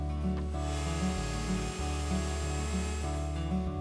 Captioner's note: mellow music; router humming; mellow music